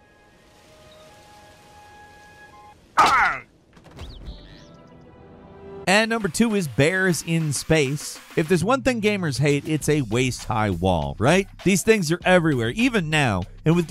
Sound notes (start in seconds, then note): 0.0 eerie music; 3.0 character screaming